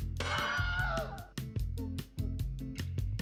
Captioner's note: man screams